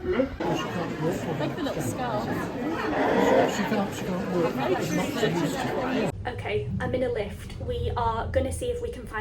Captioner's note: background chatter